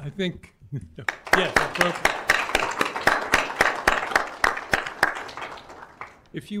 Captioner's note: applause